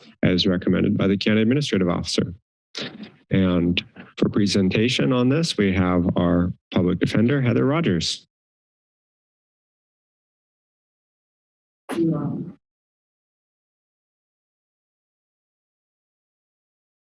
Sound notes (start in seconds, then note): 8.6 silence; 11.9 background voice; 13.6 silence